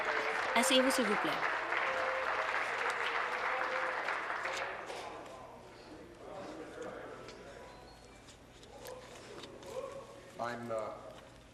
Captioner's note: applause